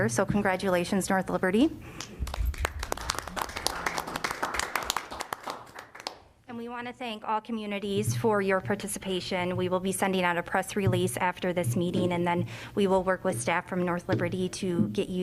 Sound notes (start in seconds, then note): 2.0 applause